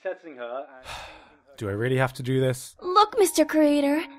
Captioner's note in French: soupir